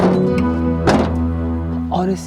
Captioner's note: lid thuds